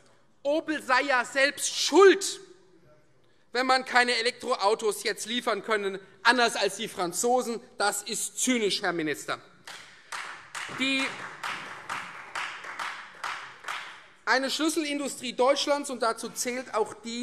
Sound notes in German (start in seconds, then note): 9.6 Beifall Freie Demokraten